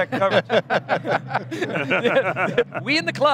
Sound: laughing

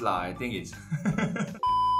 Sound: laughs

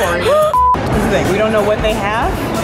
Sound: beeps

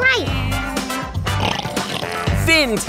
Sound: snoring

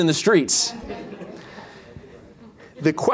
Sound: laughter

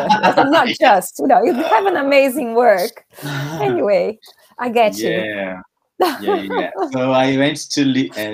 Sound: laughs

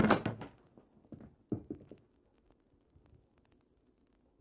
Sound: paper rattling; items clanging

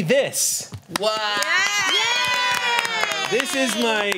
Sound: cheers

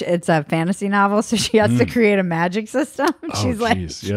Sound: laughs

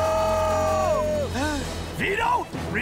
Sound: screaming; gasping

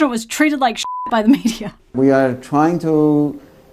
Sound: beep

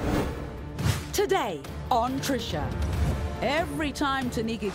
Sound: voiceover

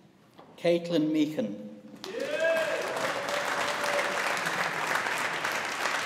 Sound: audience applauding

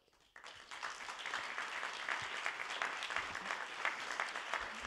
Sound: attendees applauding

